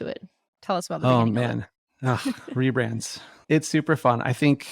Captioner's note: groans